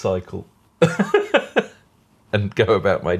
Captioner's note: laughing